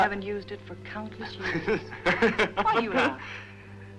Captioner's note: laughing